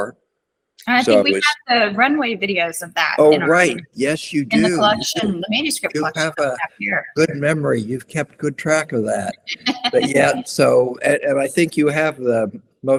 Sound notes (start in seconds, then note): 9.7 laughter